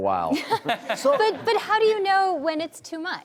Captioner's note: laughs